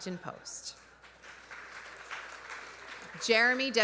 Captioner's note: audience applauding